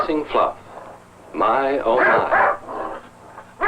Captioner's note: barking